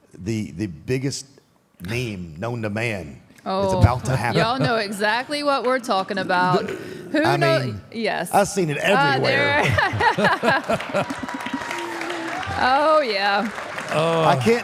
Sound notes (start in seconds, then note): 8.9 Michelle and Mark laughs; 11.8 audience applauding; 11.8 audience cheering